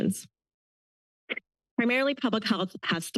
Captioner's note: pause